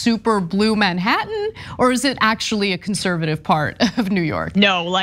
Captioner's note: laugh